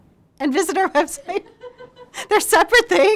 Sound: laughing

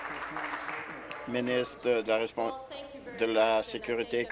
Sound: applause

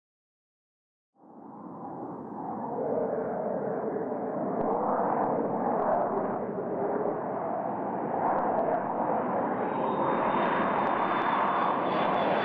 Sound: G-III taking off

